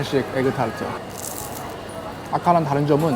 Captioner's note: crunchy sound